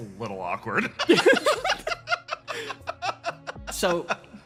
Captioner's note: laughs